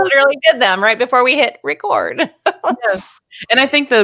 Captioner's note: laughing